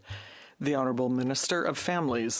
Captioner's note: speaking French